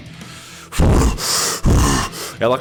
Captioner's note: arrrgh